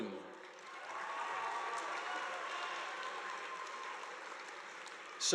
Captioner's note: audience applauding